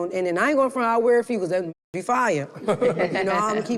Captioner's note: group laughs